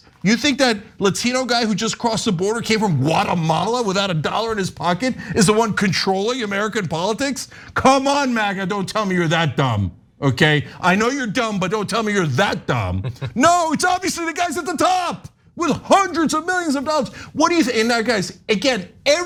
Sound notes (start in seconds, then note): 12.7 laugh